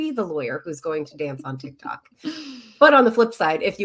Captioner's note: chuckling